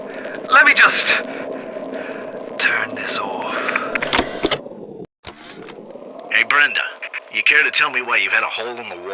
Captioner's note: using NORMAL VOICE